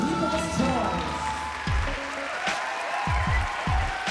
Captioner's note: applause, cheering